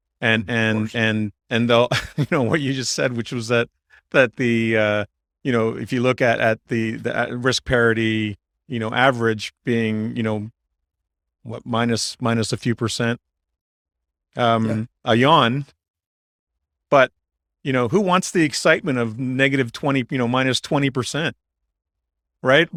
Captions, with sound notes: And ... and- Of course. ... and they'll- [laughs] You know, what you just said, which was that ... that the, uh, you know, if you look at ... at the .. at the risk parity, you know, average being, you know, what, minus a few percent, um, a yawn, but, you know, who wants the excitement of negative 20 p- you know, minus 20 percent, right?